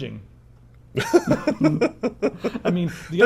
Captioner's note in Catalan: hahaha